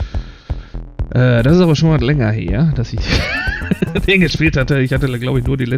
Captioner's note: laughs